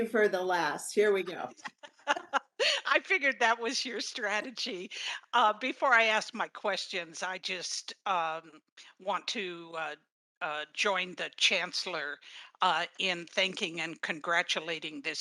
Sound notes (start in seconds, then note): 0.0 laughing; 1.4 laughing